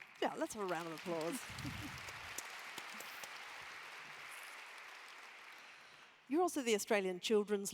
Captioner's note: applause